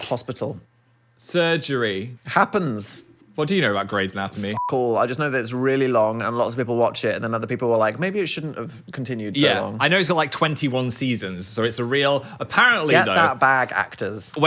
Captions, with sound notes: - Hospital. - Surgery - Happens. - What do you know about "Grey's Anatomy?" - (beep) all, I just know that it's really long and lots of people watch it and then other people were like, "Maybe it shouldn't have continued so long." - I know it's got like 21 seasons, so it's a real, apparently though. - Get that bag, actors.